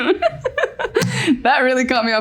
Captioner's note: giggles